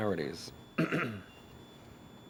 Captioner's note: coughs